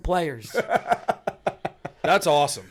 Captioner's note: laughter